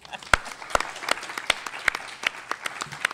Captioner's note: applause